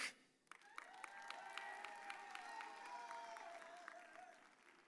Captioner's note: audience cheers